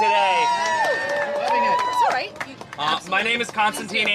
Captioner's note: cheering